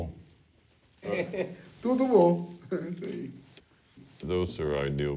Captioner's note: speaking Portuguese